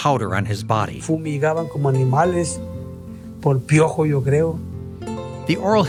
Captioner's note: speaking in foreign language